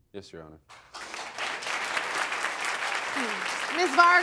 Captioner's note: audience applauding